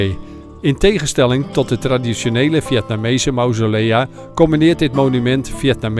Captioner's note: voiceover